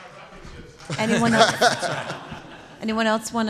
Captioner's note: laughter